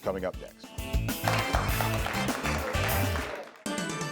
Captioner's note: crowd applauds; dramatic music